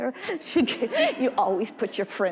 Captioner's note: audience laughing